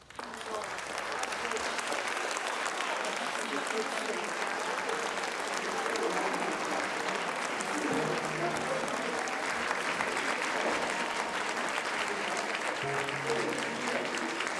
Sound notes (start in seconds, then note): 0.1 audience applauds; 3.1 audience chattering; 7.9 pensive music